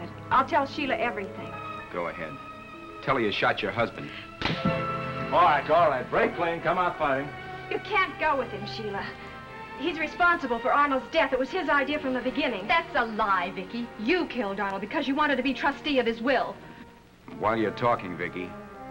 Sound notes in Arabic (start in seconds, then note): 2.2 بسخرية; 4.4 صفعة